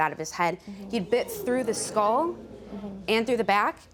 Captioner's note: audience groaning